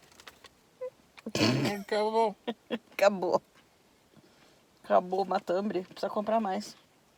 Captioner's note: laughs